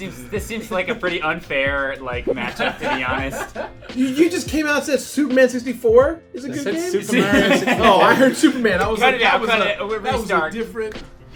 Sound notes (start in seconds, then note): 2.2 laughs; 6.8 laughter